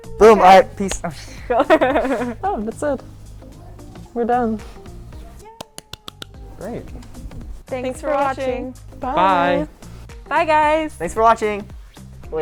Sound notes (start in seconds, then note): 0.5 laughs; 5.4 clapping hands